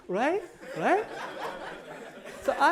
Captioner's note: laughter